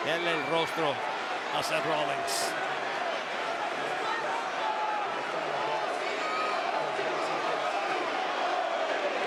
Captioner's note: applause